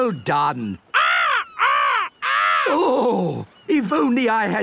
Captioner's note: seagulls cries